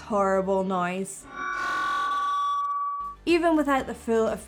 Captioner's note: feedback screeching